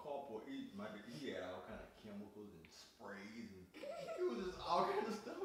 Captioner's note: laughing